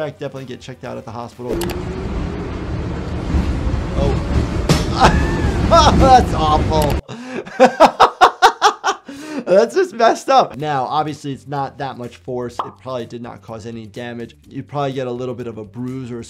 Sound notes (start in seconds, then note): 4.3 board thuds; 4.8 laughs